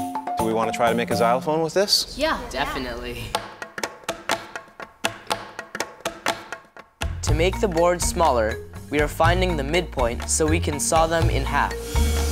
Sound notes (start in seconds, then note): 3.7 hollow slapping